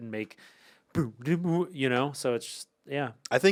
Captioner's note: Ian hums